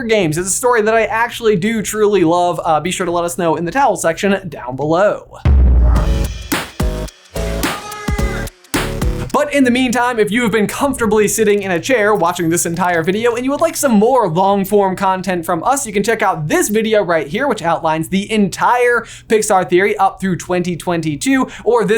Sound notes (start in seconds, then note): 5.4 energetic music; 7.6 voiceover